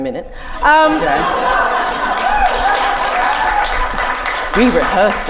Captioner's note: audience laughter can be heard